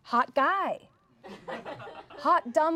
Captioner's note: everyone laughs